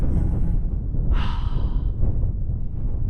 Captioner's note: sigh